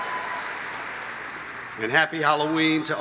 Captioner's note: applause